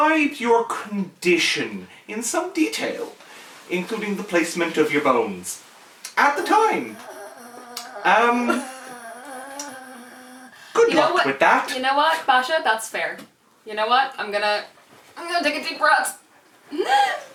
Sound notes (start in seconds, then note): 6.2 groaning; 16.9 gasp